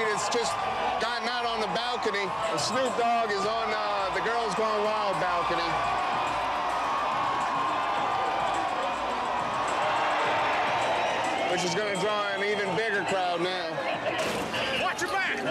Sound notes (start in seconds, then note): 5.7 cheering